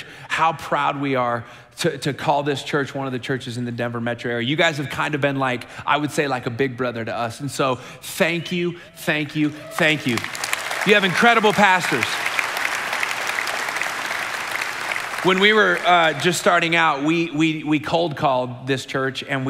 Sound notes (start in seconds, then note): 12.3 congregation applauding